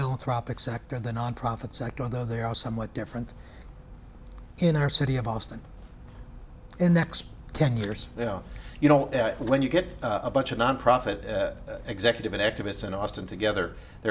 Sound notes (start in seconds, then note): none